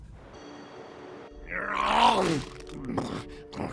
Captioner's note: eating nosily / eagerly